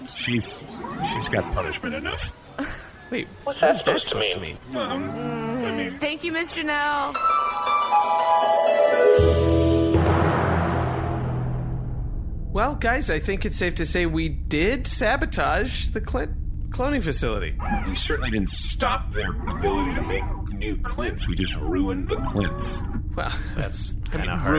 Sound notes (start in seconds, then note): 0.7 Dar laughs; 8.3 unhappy noise; 12.5 intermission music